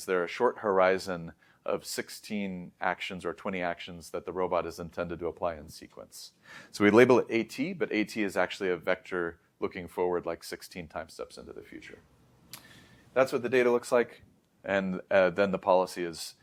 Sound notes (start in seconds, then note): 12.4 lips smack